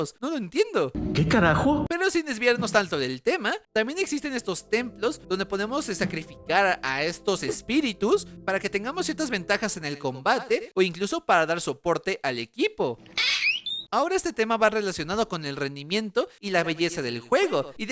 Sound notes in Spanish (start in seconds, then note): 12.7 Sonido de grito